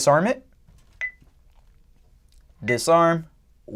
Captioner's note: beeping